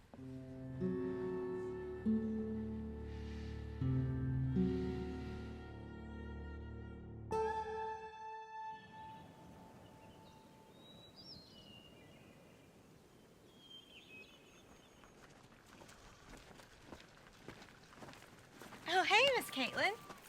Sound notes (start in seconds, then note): 0.1 slow somber music; 3.0 Coleman sighs; 9.1 birds chirping